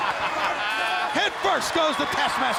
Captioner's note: Brain laughs